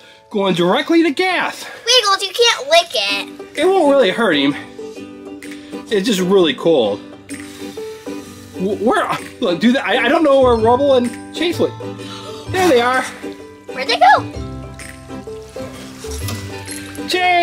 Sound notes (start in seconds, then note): 7.3 blowing; 15.9 soft upbeat music